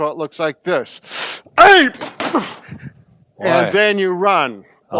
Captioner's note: grunts